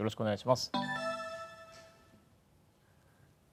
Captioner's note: electronic startup sound